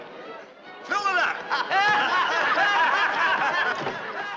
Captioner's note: all laughing